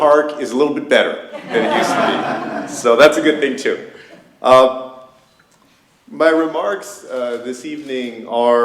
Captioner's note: laughter